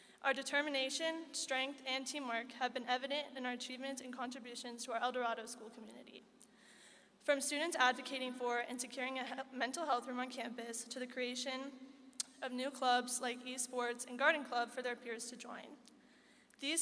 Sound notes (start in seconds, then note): none